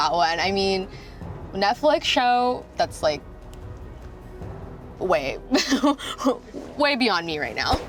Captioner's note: laughs